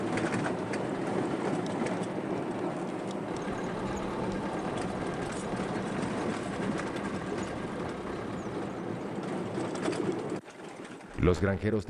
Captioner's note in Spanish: sonido automotor